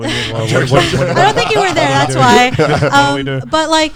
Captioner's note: laughs